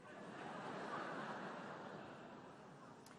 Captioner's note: laughter